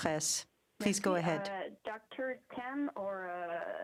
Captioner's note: speaking French